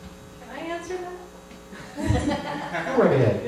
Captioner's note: laughter